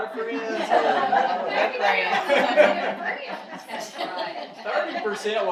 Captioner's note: audience laughing